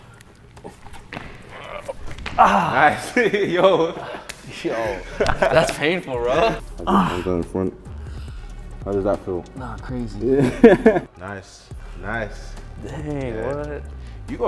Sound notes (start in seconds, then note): 0.6 grunts; 3.9 laughs; 6.8 grunts; 10.3 laughs